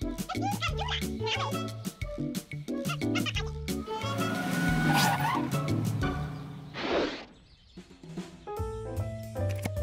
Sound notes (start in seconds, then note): 1.1 high-pitched speaking; 5.7 screeching